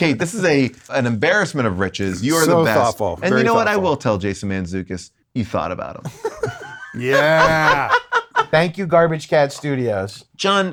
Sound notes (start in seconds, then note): 6.1 laughing